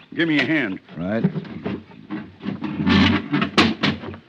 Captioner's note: door opens